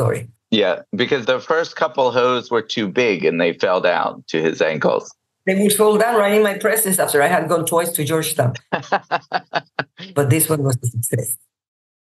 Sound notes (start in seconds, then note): 8.4 laughs